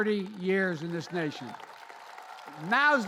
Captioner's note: applause